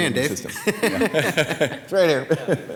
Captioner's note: laughing